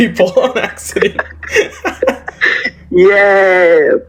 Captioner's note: light Laughing